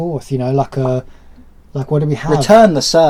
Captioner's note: does sound of a bounce